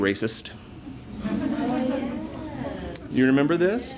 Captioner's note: laughter